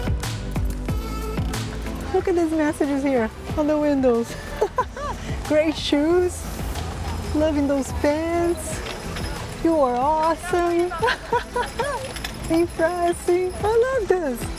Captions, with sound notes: Look at these messages here on the windows. [laughs] "Great shoes," "Loving those pants," "You are awesome." [laughs] "Impressing." I love this.